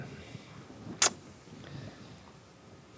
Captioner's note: clicks tongue